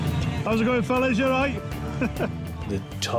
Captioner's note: laughing